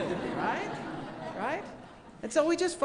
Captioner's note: laughing